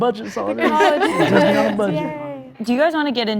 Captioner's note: group laughing